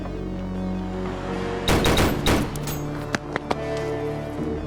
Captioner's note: guns firing